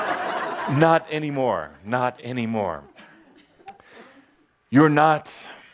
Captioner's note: laughter